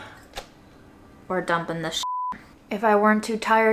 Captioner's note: beep